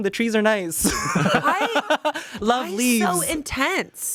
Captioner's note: Shayne laughs